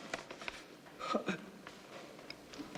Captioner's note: tearful